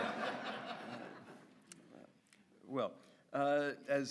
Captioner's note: audience laughs